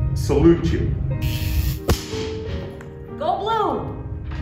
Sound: electricity buzzing

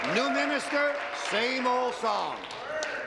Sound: applause

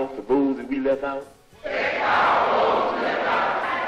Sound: crowd

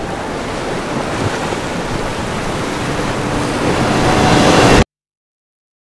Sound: waves Crashing

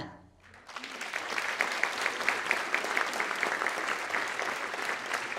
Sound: audience applauding

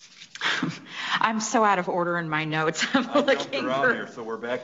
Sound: chuckles softly

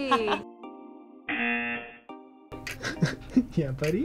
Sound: buzzer buzzes

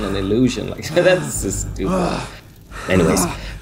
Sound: guard hyperventilates strongly

